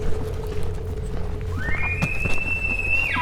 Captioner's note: caller bugling